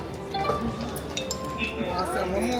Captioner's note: device beeps